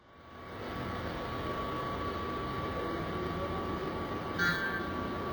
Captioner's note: excavator engine whirring